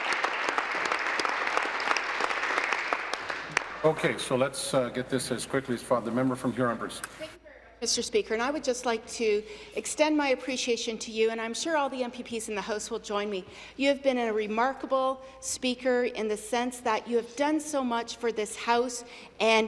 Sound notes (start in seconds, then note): 2.4 applause